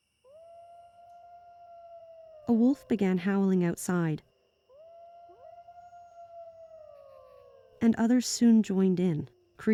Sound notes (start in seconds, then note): 0.2 A wolf howls; 4.6 more wolves howl